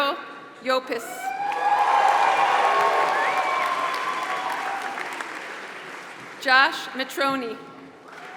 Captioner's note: applause